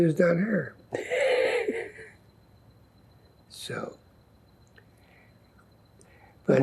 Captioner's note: laughing